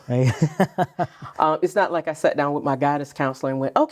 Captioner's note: laughing